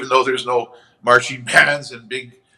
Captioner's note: chuckles